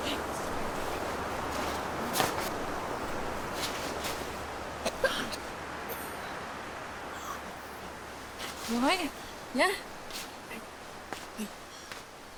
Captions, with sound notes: (Anna grunting) (Lily coughing) - You all right, yeah?